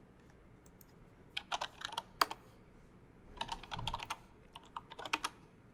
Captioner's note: typing